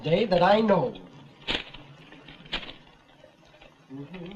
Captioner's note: paper rustles